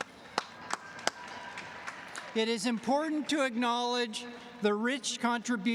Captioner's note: applause